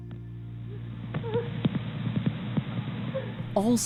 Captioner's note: crying